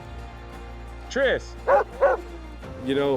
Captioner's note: triss barking